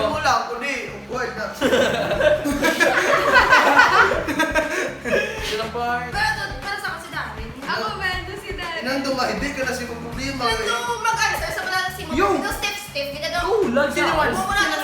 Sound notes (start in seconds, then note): 1.5 laughing